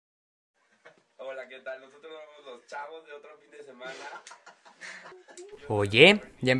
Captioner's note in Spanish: Ruido de la televisión